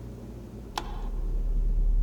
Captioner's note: light switch flicks off